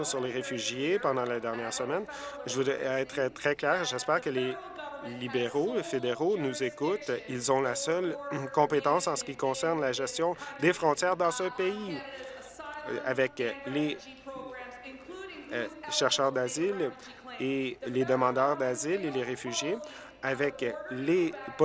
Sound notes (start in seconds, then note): none